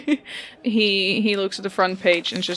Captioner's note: chuckles; laughs